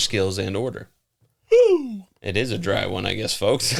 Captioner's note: audible yawn